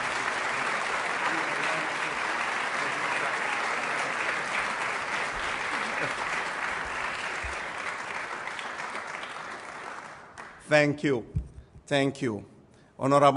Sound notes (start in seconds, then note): 3.0 applause